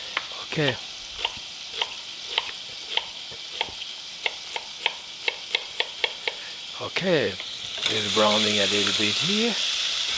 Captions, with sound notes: Okay. (pan sizzling) Okay, it is browning a little bit here nicely.